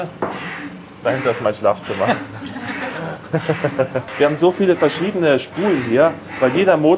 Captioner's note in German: gelächter